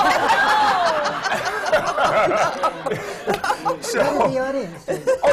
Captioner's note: laughter